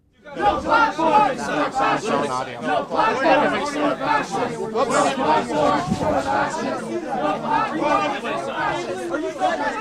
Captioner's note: chanting